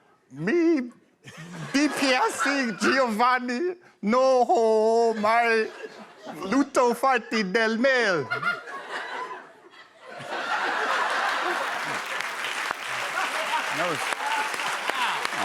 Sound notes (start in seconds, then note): 10.1 laughter